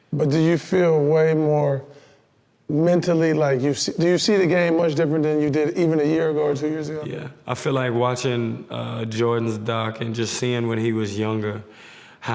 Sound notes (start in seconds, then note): none